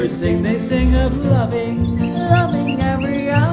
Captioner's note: birds chirping